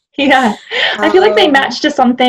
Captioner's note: chuckling